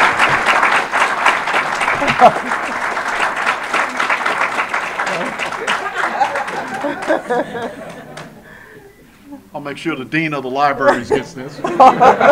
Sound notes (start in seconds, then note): 0.0 audience applause; 6.9 audience laughter; 10.8 audience laughter